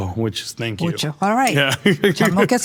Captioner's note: laughs